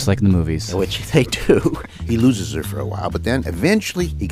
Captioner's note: laughs